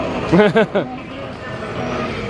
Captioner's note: laughs